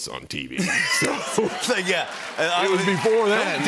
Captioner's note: laughter